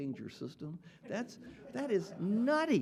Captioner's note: audience laughing